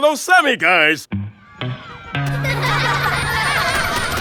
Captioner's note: playful laughter